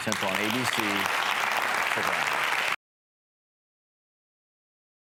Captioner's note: audience applauds